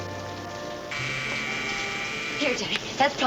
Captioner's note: buzzing